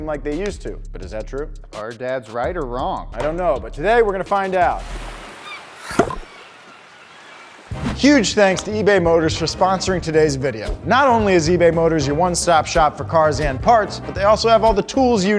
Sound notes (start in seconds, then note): 5.2 birds chirping